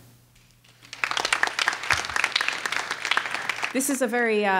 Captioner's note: clapping